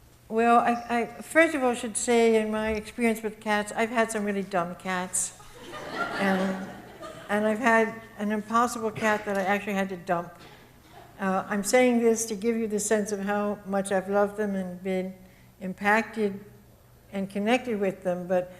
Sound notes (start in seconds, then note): 5.4 audience laughs